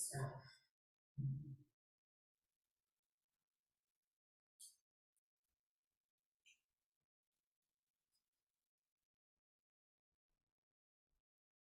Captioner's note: silence